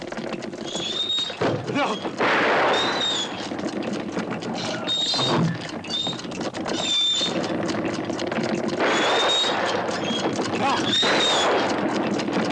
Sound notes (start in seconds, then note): 0.1 clocks ticking; 2.2 gun fires; 5.1 cart wheels creaking; 8.8 gun firing